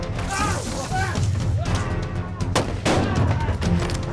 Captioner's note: splash, screams in pain; fires gunshot